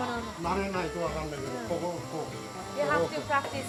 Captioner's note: speaks Japanese